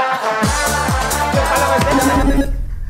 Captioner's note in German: Buzzer